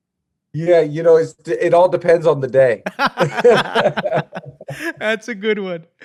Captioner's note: laughs